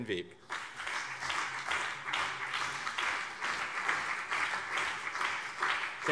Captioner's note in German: Beifall BÜNDNIS 90/DIE GRÜNEN und CDU